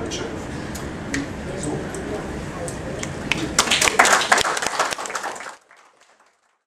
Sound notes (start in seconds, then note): 3.5 applause